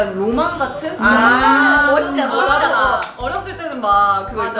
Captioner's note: OOhhhh!!